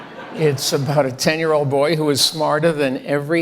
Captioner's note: audience laughing